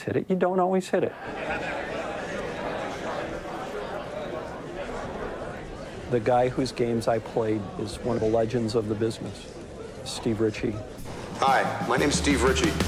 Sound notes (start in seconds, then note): 1.2 busy chatter